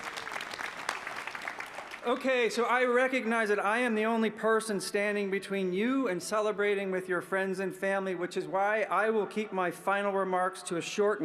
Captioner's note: applause